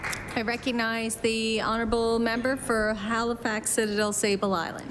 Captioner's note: applause